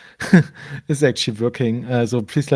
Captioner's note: chuckles